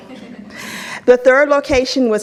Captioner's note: audience laughs